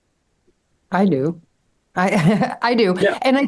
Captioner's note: laughs